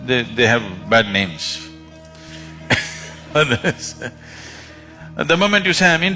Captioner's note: laughs